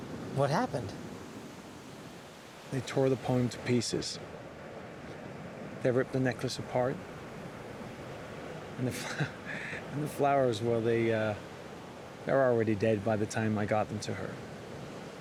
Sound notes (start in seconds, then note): 8.9 chuckles